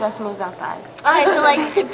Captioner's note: laughter